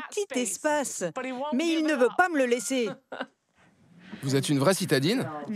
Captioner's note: laughs